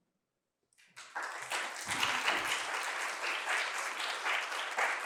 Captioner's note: applause